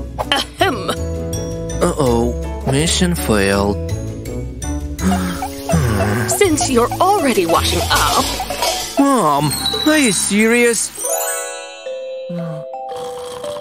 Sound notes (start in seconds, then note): 5.0 sigh; 12.4 snoring